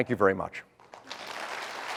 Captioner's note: applause